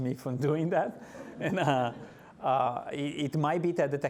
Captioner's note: laughing